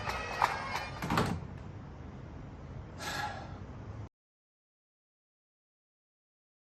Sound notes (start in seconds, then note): 3.0 sighs